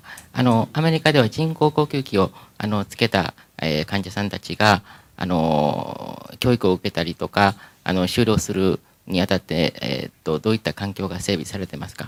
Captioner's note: speaking japanese